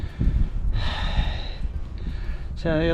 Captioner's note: breathes heavily